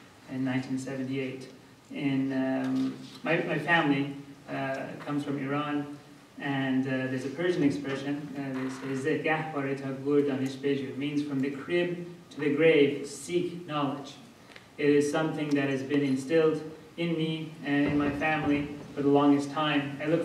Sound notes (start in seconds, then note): 8.8 speaking persian